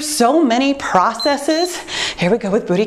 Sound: timer beeps

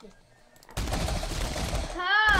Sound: insane dying sounds, crashing, hitting, all sorts

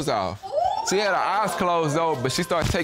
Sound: audience exclaim

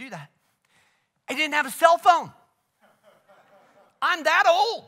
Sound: congregation laughs

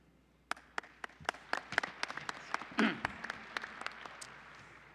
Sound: applause

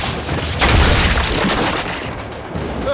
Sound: distant explosion

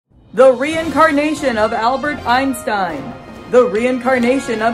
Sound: announcer voice

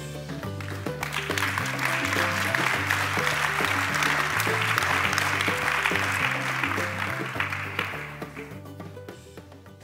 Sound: applause

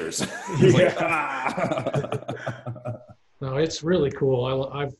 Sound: laughing

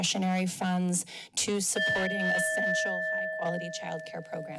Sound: timer dings

